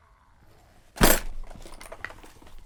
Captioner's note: donk; flips pages and hums confusedly